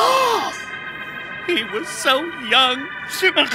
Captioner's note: tires screeching; gasping